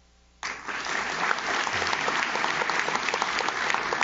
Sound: audience claps

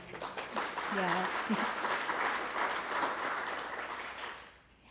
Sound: applause

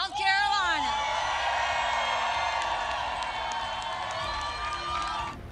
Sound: applause

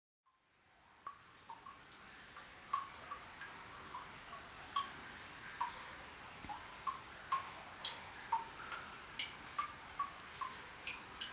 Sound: dripping water

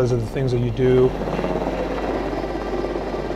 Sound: helicopter sounds

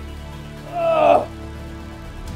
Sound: grunts

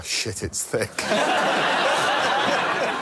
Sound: laughter

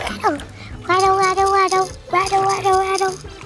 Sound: rattling

